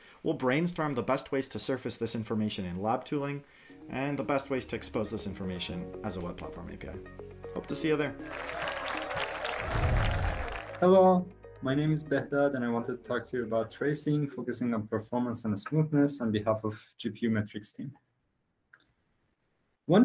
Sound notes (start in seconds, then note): 8.2 applause